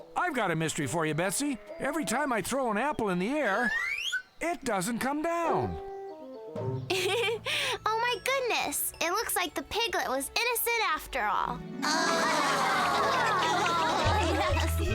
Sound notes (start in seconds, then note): 6.9 laughs; 11.8 all laughing